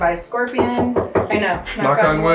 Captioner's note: table knocking